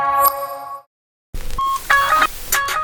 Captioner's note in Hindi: बीप बजते हुए